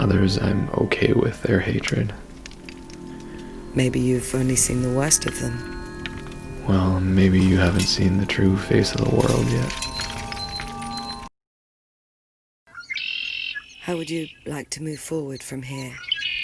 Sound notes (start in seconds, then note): 10.3 beeping; 12.7 songbird